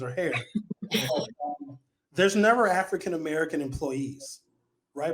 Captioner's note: laughing